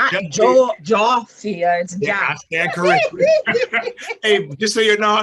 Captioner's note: laughs